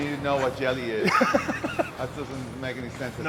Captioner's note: Ethan laughing